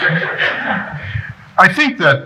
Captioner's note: laughing